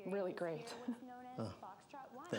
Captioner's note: chuckling